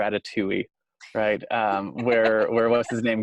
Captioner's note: laughs